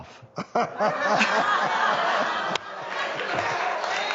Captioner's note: everybody laughs